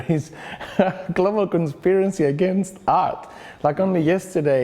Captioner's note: laughs